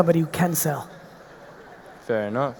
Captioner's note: audience laughing